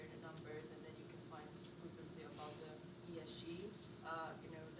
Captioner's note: faintly speaking